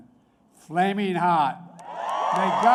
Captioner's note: applause